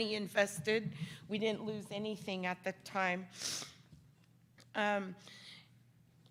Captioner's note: sniffling